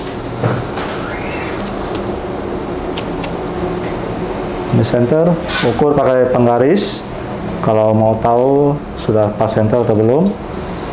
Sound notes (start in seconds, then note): 5.1 ruler sound